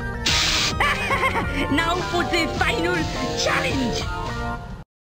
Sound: laughs

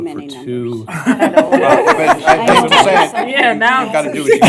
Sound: laughter

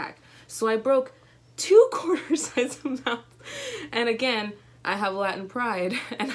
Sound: laughs

